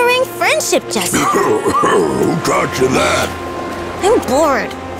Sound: cough

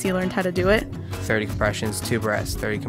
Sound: voiceover

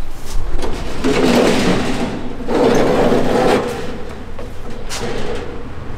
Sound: door slides open

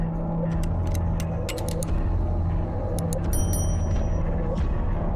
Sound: dramatic music; trigger clicks

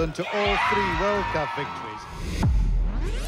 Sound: team cheering; dramatic music

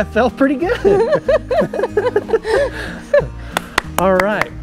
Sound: both laughing; clapping

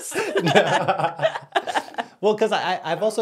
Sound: laugh

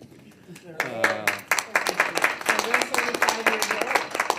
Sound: everyone applauding

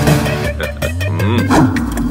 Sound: laughs

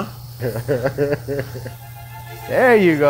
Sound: laughs

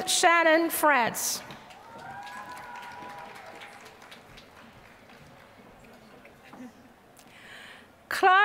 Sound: applause

